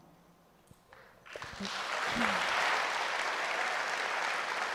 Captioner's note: audience applauds